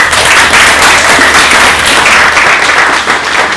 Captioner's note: applause